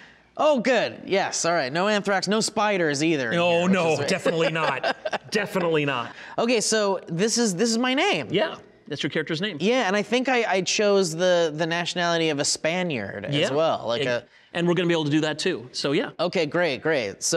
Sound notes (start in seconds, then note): 4.9 laughing